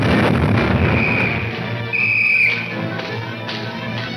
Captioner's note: officer whistling; footsteps tapping